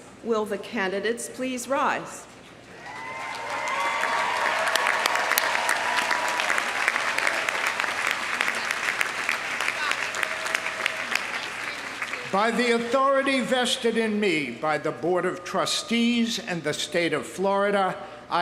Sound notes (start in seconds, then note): 3.1 audience applauding; 3.1 audience cheering